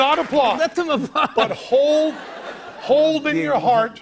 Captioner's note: laughter